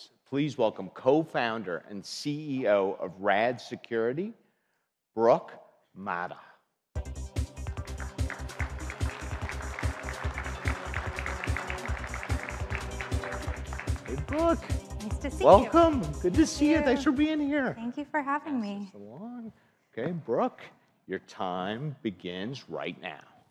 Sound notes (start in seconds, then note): 7.0 exciting music; 7.6 audience applauds